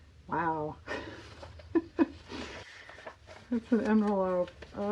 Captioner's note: laughs